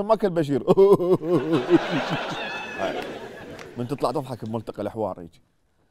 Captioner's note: Laughing